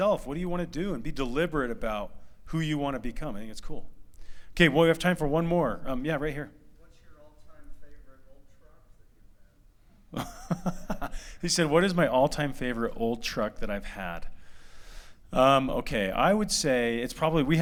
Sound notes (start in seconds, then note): 10.1 laughter